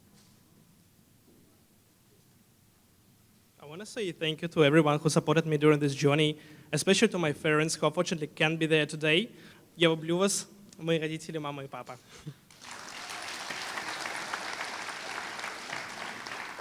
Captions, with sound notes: I want to say thank you to everyone who supported me during this journey especially to my parents who unfortunately can't be there today. [Foreign Language]